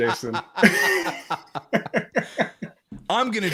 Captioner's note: laughter